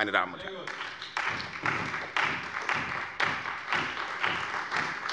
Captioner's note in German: Beifall bei der CDU und dem BÜNDNIS 90/DIE GRÜNEN